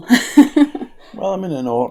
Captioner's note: nervous laughter